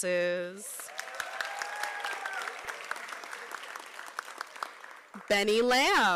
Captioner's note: applause